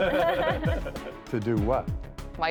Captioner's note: laughing